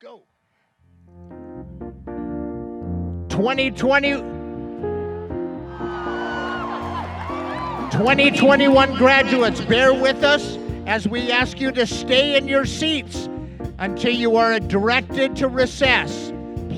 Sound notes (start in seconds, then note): 1.2 jazz music; 5.6 graduates cheering